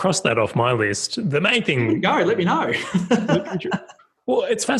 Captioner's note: laughs